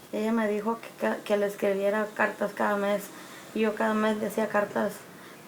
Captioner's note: speaks in foreign language